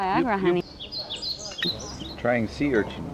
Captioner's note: sound: birds singing